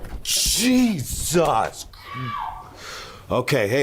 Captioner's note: voice screaming